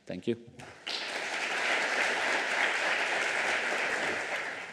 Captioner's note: applause